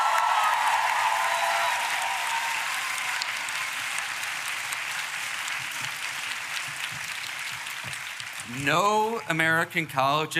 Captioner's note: applause